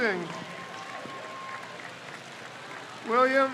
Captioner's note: crowd cheers